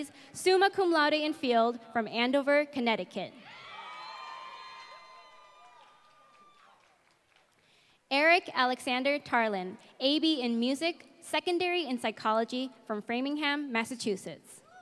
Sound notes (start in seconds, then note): 4.0 applause